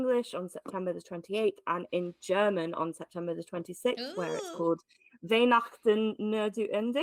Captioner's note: speaking German